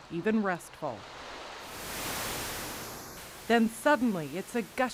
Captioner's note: water rushing